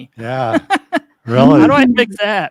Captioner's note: laughs